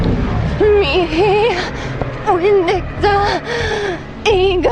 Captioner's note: foreign language